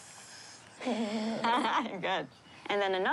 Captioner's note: both laugh